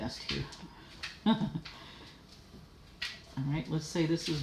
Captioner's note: laughing